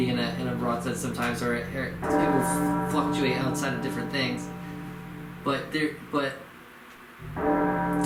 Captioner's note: bell tolls